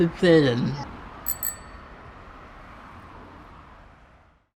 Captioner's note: bell dinging